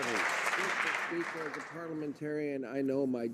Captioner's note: some Applause